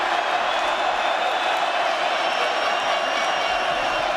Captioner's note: crowd cheering